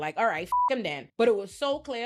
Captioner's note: beep